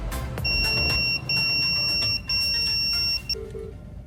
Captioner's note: pager goes off